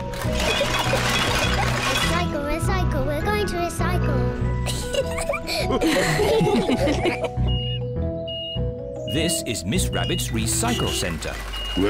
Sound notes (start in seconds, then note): 0.1 giggles; 4.7 all laugh; 7.0 crane beeping